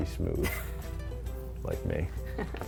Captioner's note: laughs